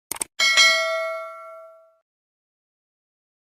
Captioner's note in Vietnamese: chuông